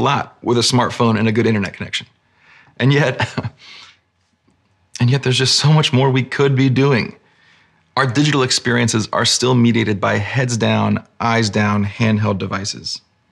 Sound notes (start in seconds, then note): 2.9 chuckles